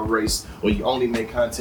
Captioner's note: birds Chirping